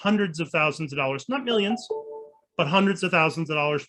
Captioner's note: soft chimes